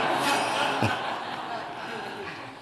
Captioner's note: laughter